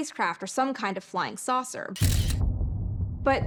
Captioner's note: camera shutter